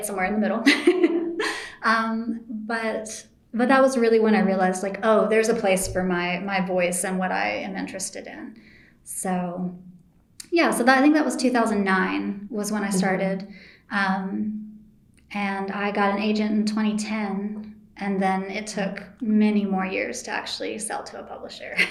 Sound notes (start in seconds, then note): 1.7 laughs